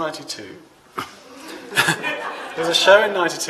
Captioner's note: laughter